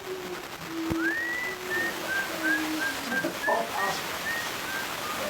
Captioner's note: Geoff whistling